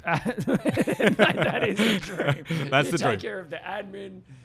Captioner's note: laughs